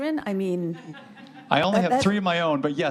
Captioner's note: audience laughs